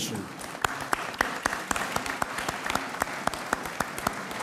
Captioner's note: audience applauds